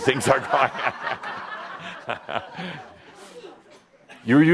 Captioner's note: laughter and Adamus chuckles